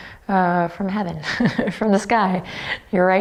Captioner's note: chuckles